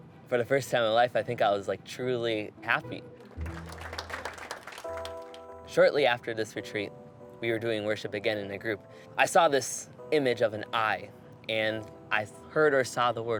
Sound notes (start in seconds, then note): 3.2 audience applauding